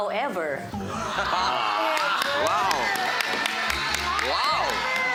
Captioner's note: crowd cheers, applauds